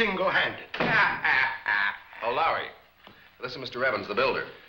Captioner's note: Lowery laughs